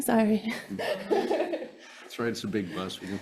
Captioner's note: laughs